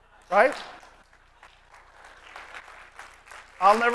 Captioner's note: applause